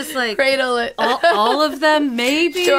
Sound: laughs

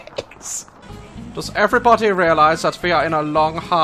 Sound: German accent

